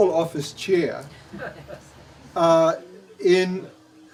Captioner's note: laughs